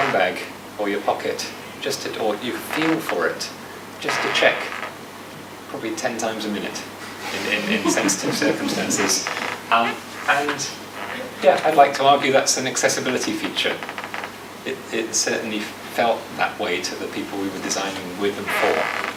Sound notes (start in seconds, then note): 7.2 audience laughs